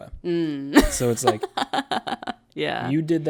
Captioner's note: laughs